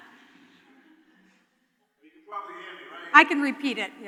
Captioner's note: laughter